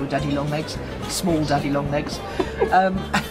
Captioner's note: laughs